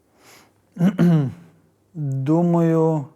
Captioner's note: clears throat